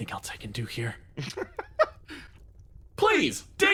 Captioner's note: laugh